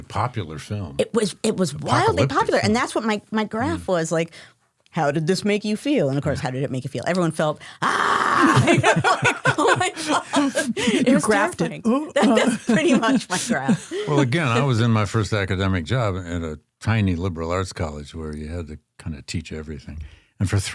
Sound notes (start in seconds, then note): 7.8 screams; 8.4 everyone laughs